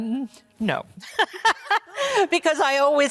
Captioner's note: laughs